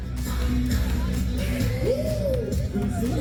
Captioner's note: crowd cheering